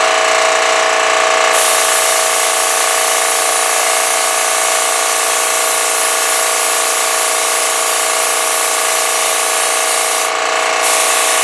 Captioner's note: spraying and compressor sounds